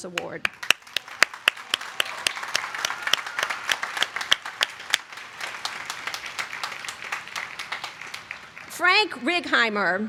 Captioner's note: applause